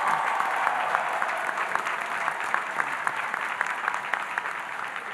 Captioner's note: audience applauding